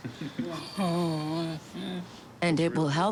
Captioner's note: chuckles